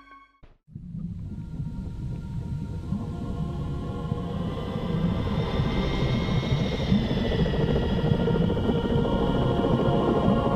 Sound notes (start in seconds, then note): 5.5 engine noises; 8.9 mysterious music